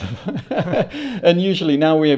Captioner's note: laughter